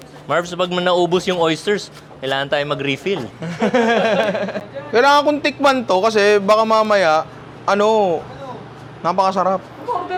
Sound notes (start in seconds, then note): 3.3 laughter